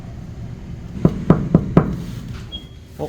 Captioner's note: knock, knock